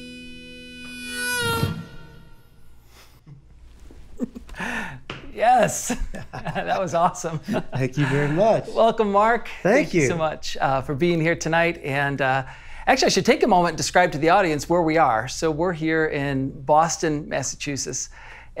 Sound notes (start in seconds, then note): 6.0 laughing